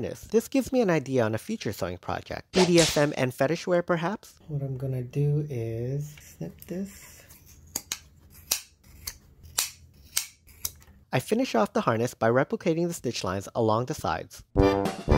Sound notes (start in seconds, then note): 2.5 whip sound; 7.4 sound of scissors; 14.5 polka music